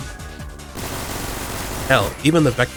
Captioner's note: braararararraaat